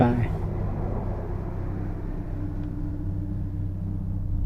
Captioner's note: vehicle sounds in distance